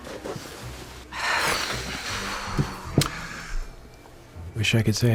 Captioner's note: sighs heavily